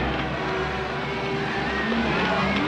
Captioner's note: none